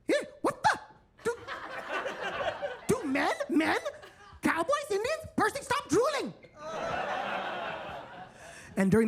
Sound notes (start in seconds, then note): 1.2 attendees laughing; 6.5 attendees laughing